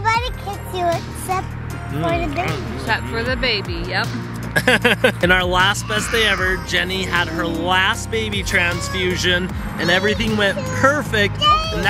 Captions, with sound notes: - Nobody kicks you except for the baby. - Except for the baby, yup. (laughs) - In our last Best Day Ever, Jenny had her last baby transfusion and everything went perfect.